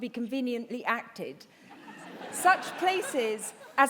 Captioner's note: laughter